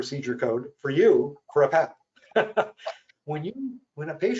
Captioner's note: chuckles